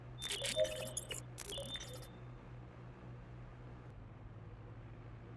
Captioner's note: computer whirs louder